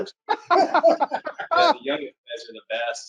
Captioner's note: laughs